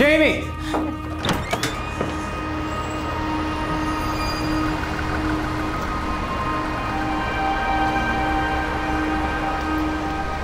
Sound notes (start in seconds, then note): 0.7 door squeaks; 7.4 dramatic music